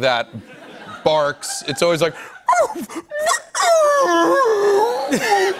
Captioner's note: making dog noises